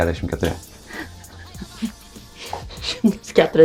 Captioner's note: laughs in Lithuanian